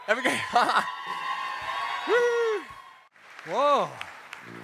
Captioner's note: audience cheers; chuckles